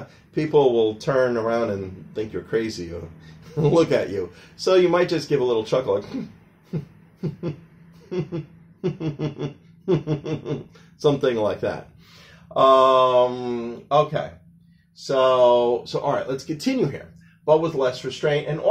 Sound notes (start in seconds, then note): 8.7 chuckling sounds